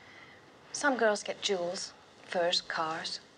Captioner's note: none